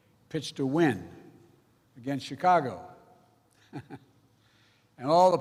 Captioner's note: laughs